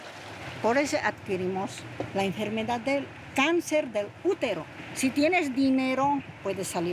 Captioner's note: speaking in foreign language